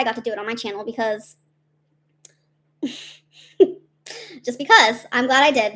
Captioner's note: chuckles